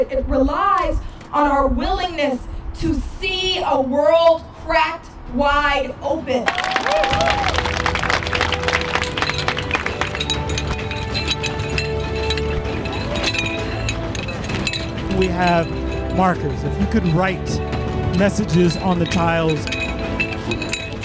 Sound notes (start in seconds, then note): 6.4 applause